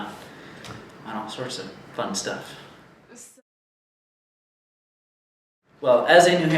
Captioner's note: silence